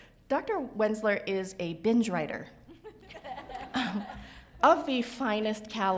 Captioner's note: laughs